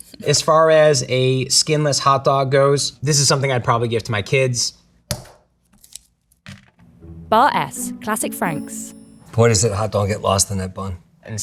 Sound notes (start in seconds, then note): 5.0 package thunks; 5.0 plastic rustling